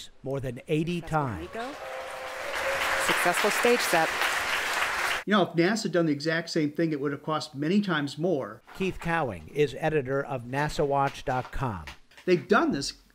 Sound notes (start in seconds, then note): 1.3 applause